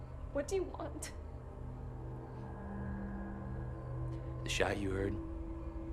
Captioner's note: tense music; crickets chirping